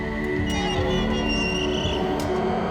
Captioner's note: hinges creaking